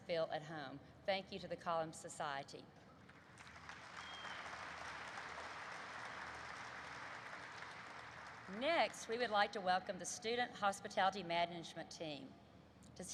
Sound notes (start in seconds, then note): 3.0 applause erupts